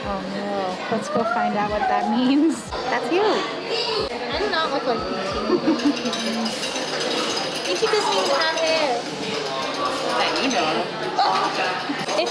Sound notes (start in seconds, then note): 5.3 laughs